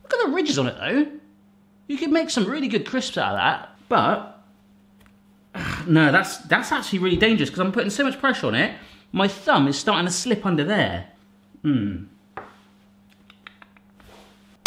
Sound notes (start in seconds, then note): 4.2 grunts